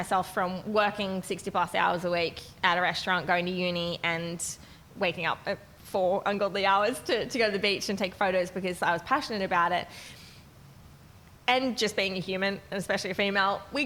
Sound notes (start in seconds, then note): none